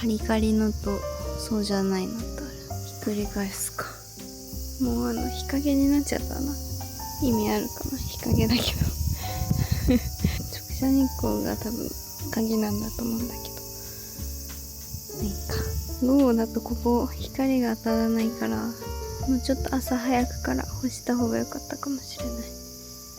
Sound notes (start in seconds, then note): 9.7 laughs